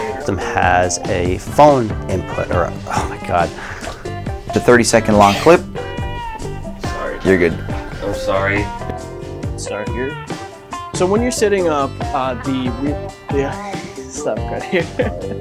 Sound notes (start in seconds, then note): 5.2 sneeze; 14.5 laughing; 14.5 laughs